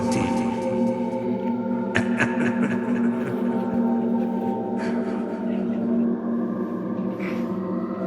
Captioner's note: scary music; laughter